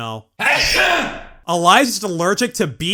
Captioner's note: ear-splitting sneeze